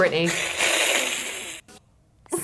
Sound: whispers; hisses

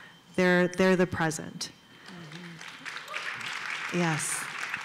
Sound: applause

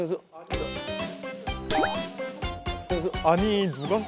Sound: bonk

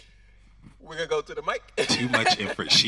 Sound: audience and host laughing; laughing

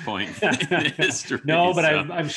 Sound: both laugh

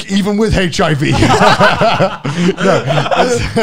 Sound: men laughing

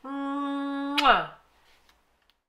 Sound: kissing sound

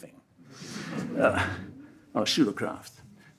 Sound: audience laughs

